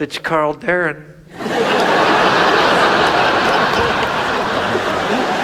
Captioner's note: audience laughs